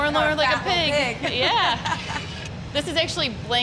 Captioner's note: laughing